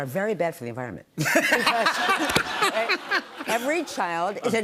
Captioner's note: laughter